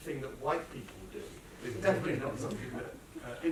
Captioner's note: laughter